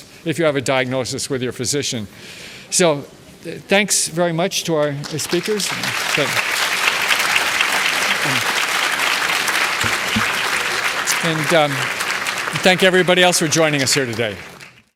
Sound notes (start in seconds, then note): 5.7 applause